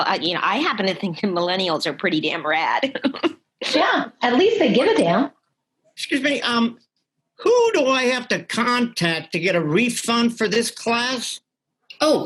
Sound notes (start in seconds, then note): 3.3 laughs